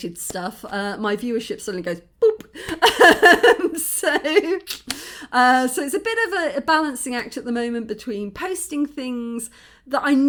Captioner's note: laughing